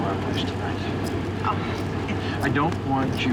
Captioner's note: laughs